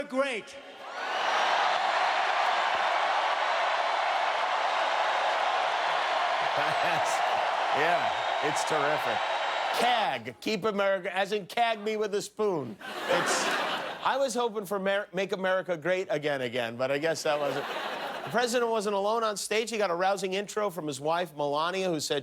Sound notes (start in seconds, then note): 8.2 cheers and applause